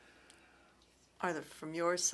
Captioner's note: speaking French